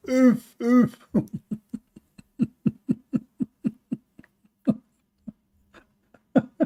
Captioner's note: Ketawa